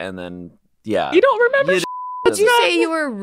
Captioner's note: beep